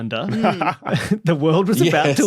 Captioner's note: chuckles